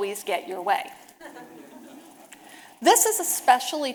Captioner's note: audience laughing